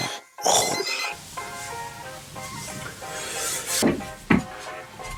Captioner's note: cough/Sound